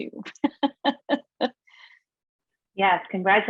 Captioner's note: laughs